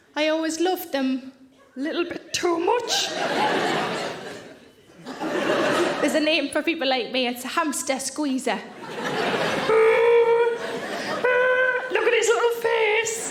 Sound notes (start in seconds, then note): 2.8 audience laughing; 8.7 audience laughing; 8.9 Sarah groaning